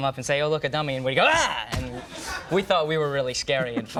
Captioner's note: Joseph screaming